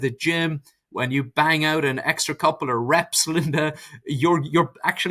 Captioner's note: chuckles